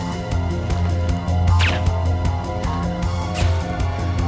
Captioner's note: gun fires; dart whooshes